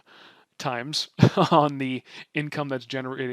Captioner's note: chuckles